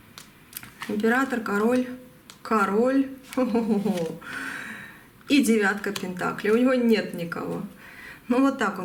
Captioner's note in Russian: тяжело вздыхает